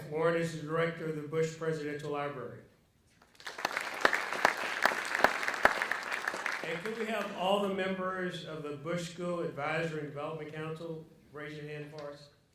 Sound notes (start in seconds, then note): 3.2 audience clapping